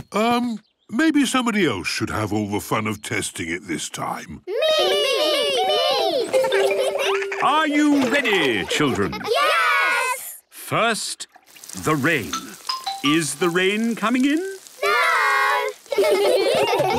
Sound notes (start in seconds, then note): 6.2 laughter; 15.9 laughter